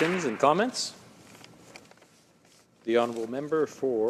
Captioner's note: some applause